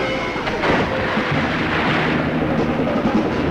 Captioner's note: screaming; water splashing; dramatic music